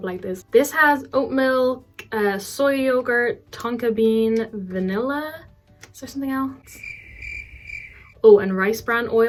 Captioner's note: cricket sound effect